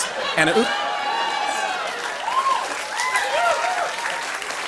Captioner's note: cheers and applause